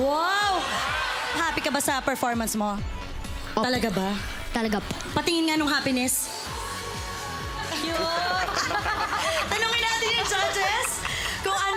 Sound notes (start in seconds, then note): 8.1 judges chuckling